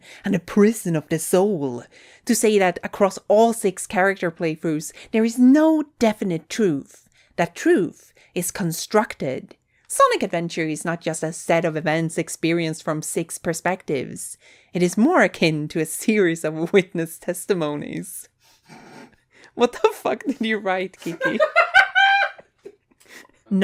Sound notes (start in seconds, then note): 18.6 laughs; 21.0 laughs behind camera